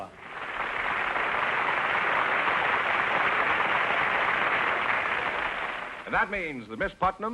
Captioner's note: applause